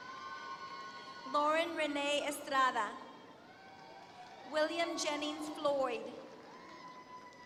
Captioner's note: applause